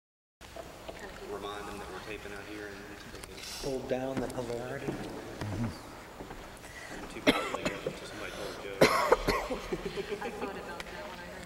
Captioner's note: indistinct chatter